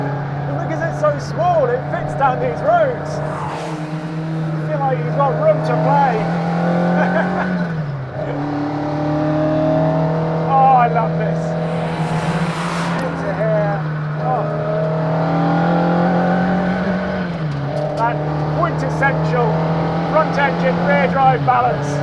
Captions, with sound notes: Because it's so small, it fits down these roads. Feel like you got room to play. (laughs) (car engine roars) Oh, I love this. Good to hear. Oh. (car engine roaring) That quintessential contact and rear drive balance.